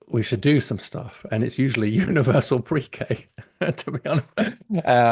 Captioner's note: laughs